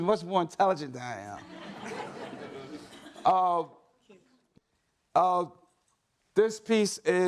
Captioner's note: laughter